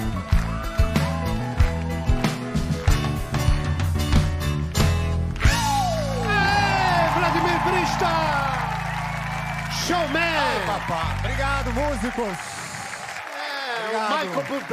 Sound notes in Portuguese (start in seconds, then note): 2.5 gritos; 2.9 aplausos